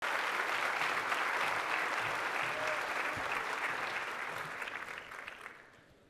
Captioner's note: audience applauding